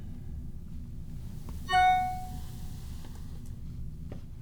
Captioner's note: bell dings